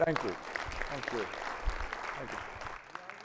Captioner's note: audience clapping